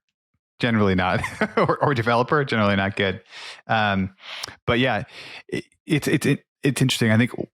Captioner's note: laughs